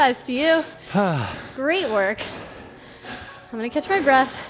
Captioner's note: breathes heavily